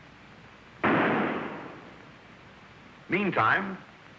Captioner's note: gunshot